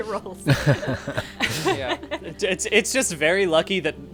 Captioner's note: laughing